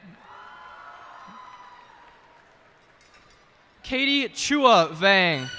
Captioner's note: cheers and applause